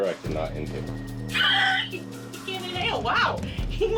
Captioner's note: laughs